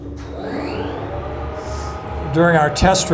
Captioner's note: lift whirring